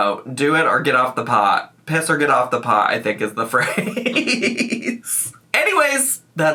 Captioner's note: laughs